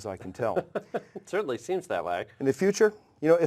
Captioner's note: laugh